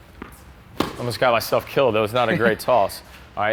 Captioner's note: ball thumps